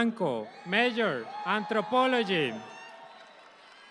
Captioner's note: audience applauds